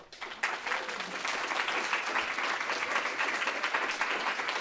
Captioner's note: audience clapping